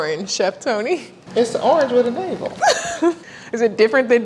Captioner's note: laughing